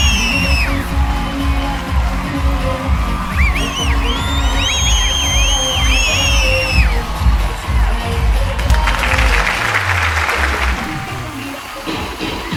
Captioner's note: applause